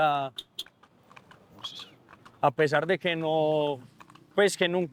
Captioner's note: click